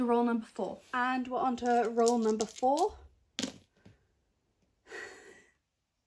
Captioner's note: sounds of dice rolling